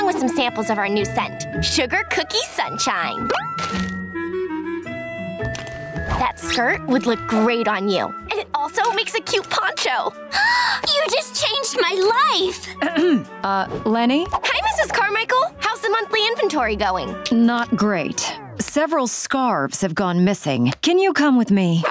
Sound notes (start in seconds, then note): 10.3 gasping; 12.8 clearing throat